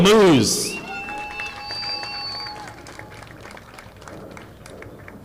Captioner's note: audience applauding